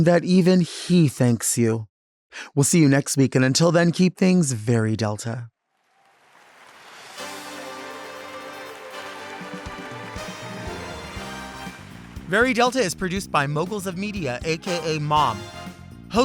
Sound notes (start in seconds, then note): 7.5 audience clapping; 10.3 upbeat music